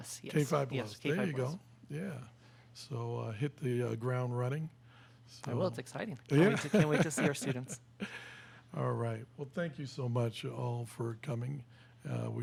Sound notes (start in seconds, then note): 6.3 laughs